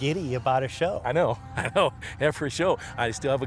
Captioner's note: chuckles